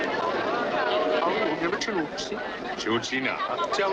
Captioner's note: speaks Chinese